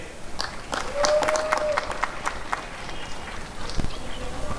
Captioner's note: applause and cheering